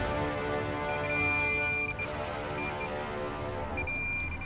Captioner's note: beeping